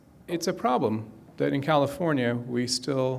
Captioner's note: none